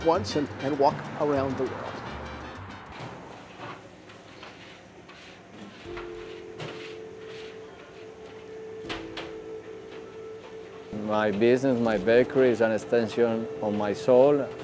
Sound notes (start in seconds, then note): 3.0 mellow music; 4.1 utensils scraping